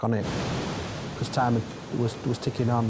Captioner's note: waves roaring